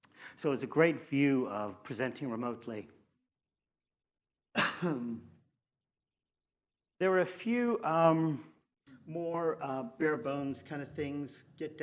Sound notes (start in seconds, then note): 4.5 narrator coughs